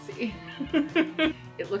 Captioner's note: laughs